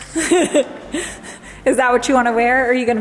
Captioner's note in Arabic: تضحك